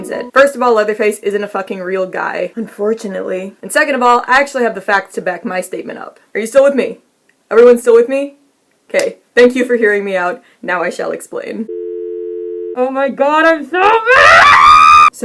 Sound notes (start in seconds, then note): 0.0 mocking voice; 11.7 error tone plays; 13.9 muffled screaming